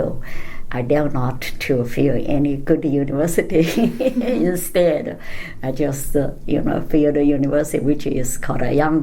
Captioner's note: laughs